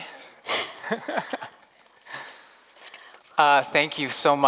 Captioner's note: laughs